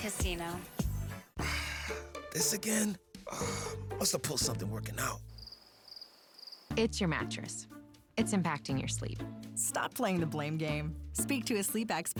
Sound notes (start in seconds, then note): 3.2 sigh; 3.2 groan; 5.1 crickets chirping